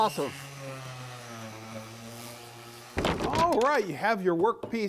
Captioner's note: sander whirring